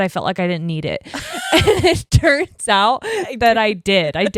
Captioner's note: both laughing